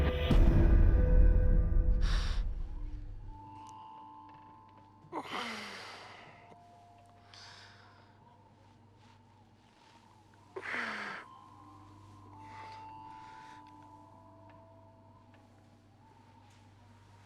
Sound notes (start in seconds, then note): 4.3 whimpers